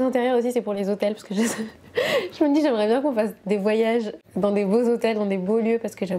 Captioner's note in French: rires